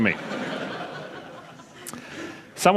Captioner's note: laughter